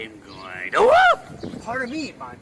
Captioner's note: The Dawn Avenger screams